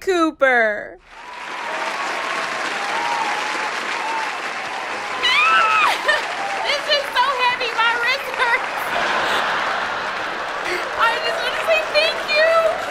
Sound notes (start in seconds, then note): 0.2 audience applauding; 5.2 Jerri squealing; 7.9 audience laughing